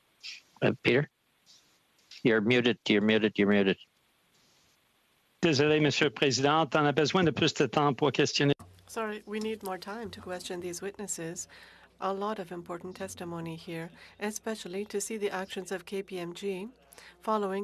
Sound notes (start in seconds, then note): 9.7 speaking FRENCH